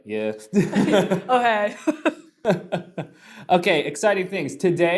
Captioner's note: both laugh